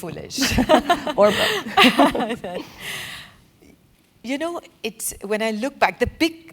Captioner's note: laugh